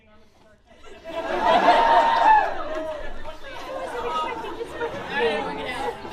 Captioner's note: laughter